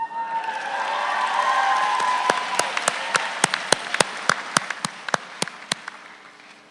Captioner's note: audience cheers; audience applauds